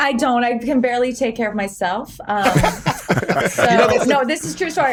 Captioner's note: laughter